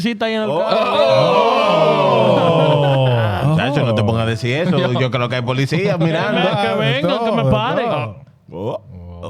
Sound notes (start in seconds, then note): 0.5 all Exclaiming; 3.4 speaking In Foreign Language